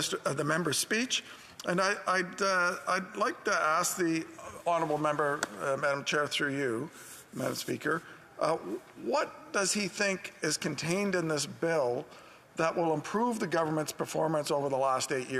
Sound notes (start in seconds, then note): none